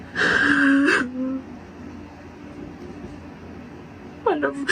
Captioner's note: sobbing